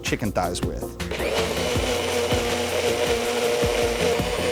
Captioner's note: blender blending